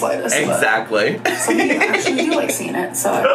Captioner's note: laughs